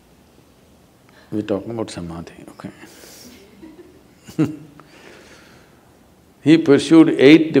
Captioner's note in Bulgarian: смее се